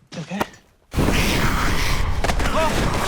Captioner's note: growling